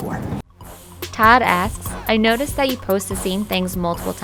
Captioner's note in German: Voice-over